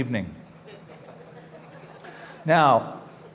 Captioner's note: laughter